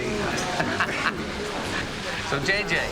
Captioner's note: laughing